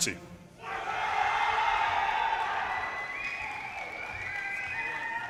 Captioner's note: audience cheers and applause